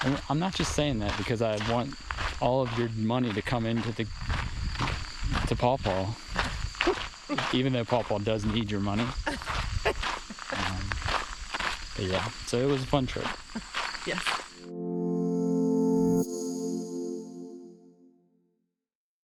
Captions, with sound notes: And I'm not just saying that because I want all of your money to come into the, to Paw Paw. [laughs] Even though Paw Paw does need your money. [laughs] Um, but yeah, so it was a fun trip. Yeah. [outro jingle]